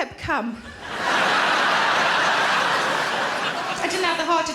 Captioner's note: audience laughing